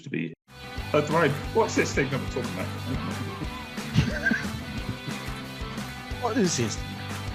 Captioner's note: unknown cockney/yorkshire accent